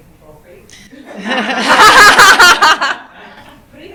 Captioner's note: laughter